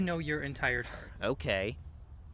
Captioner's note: scoffs